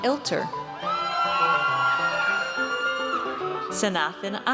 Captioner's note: audience cheers